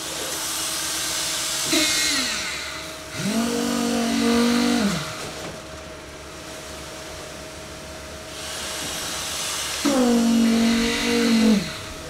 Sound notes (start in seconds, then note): 3.1 engine revving